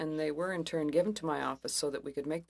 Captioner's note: speaking French